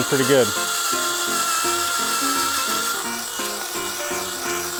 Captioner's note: drilling noise